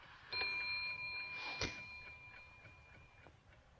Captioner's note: bell dings